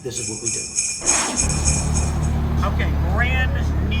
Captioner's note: engine hums